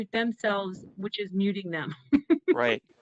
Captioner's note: laughter